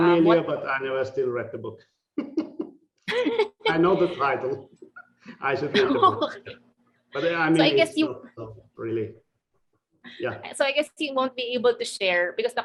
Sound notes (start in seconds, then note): 2.2 laughing